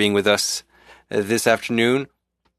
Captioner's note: speaking French